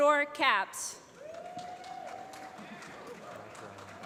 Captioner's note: applause